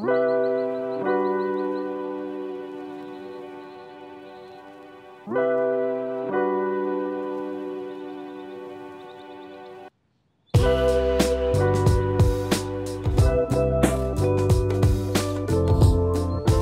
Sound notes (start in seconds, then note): 0.1 warm, upbeat, Introduction music plays; 2.0 sounds of birds in the distance